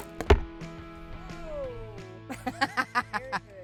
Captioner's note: laughing